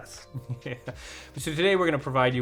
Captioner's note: chuckling